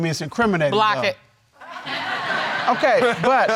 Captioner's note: audience laughing